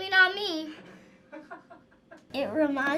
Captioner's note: React chuckles